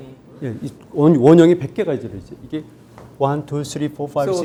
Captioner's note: speaking in Korean